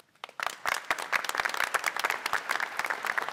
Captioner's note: applause